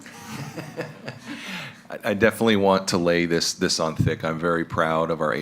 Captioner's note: laughing